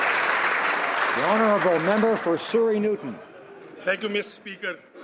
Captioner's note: some Applause